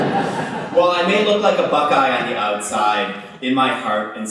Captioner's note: laughter